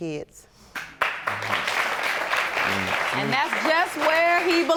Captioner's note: audience applauding